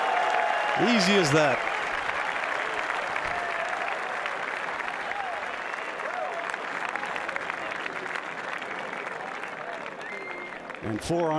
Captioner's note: cheers and applause